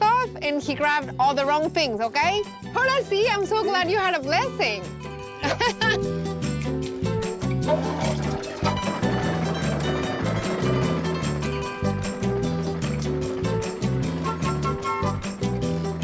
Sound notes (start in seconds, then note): 5.3 laughs